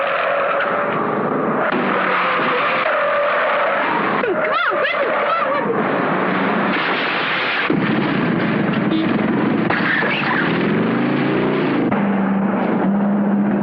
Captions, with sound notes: [SCREECHING TIRES] Come on! Let's go... [SMASHING WOOD]